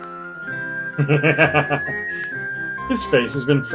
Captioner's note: laughs